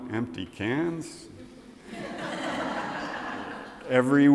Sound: audience laughs

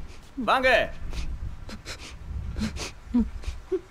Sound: sniffles

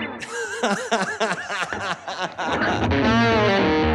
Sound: laughing

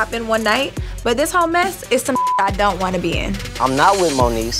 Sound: beep

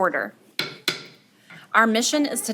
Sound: gavel clacking

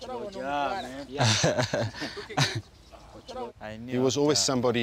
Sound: laughter

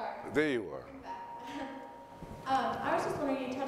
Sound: voiceover

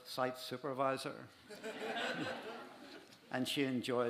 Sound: laughter

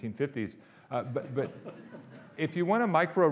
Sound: audience laughing

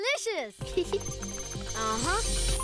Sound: chuckling; beeping

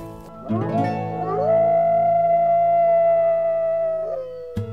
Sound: coyotes howling

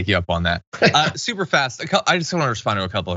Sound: laugh

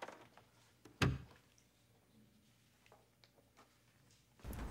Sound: door clacks

